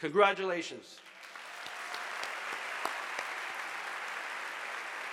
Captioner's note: audience applauding